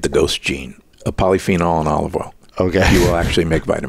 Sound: chuckles

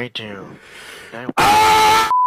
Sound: inhale; TV Color Bars Sound Effect

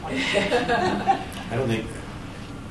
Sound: laughter

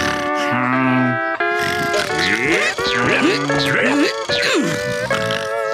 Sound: snoring; grunting

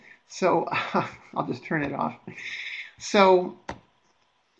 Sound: laughs

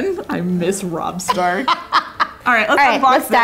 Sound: laughing

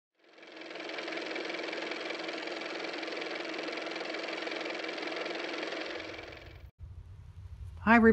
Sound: car motor

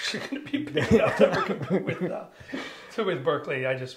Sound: both laughing

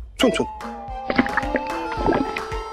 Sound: stomach growling

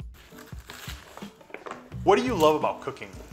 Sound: knife cutting

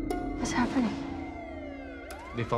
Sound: siren wails

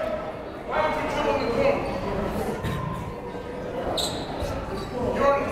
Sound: coaches barking commands

